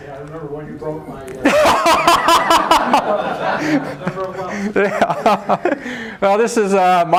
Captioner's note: laughter